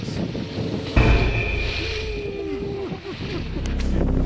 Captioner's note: loud wind blows